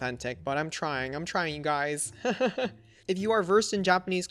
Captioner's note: laughs